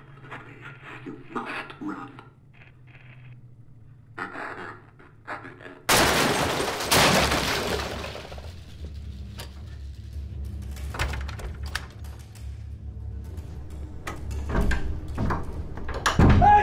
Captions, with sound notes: You must run. [crashing] [locks door] Hey!